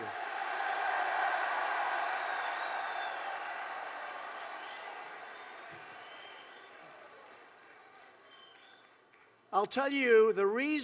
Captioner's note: applause